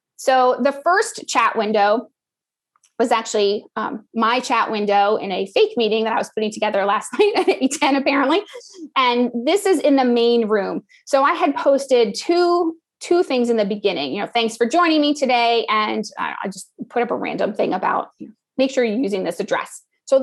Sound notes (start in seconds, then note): 7.1 laugh